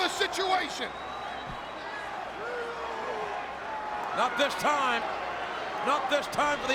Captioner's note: applause